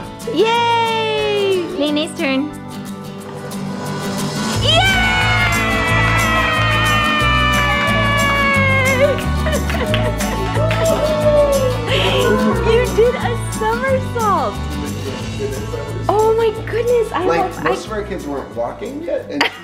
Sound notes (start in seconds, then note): 4.9 clapping; 11.5 laughing